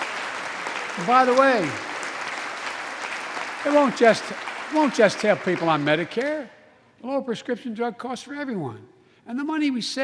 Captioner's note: applause